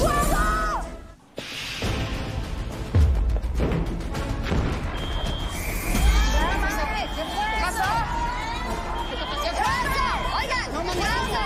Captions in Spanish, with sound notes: ¡Fuego! [Explosiones] [Alarma] [Gritos] - ¿Qué pasó? - ¡López! - ¡Oigan!